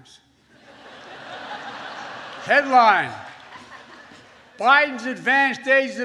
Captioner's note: laughter